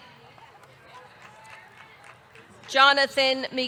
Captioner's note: audience clapping